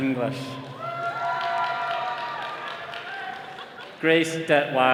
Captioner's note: all cheering